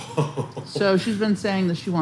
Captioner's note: laughs